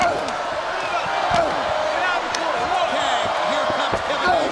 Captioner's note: crowd murmuring